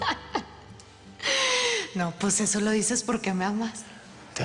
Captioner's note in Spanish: Risas